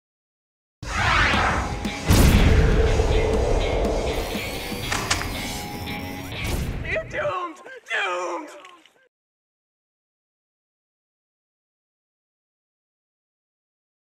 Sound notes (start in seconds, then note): 6.6 disembodied voice